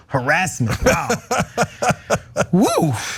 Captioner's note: laugh